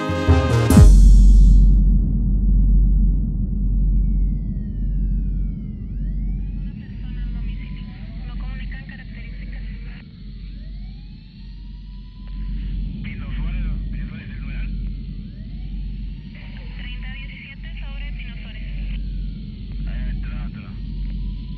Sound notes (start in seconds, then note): 7.9 voz de mujer en radio; 10.4 sirena de ambulancia; 17.4 voces en radio